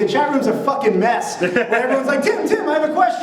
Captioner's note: laughs